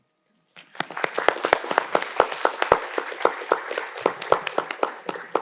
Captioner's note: audience applauding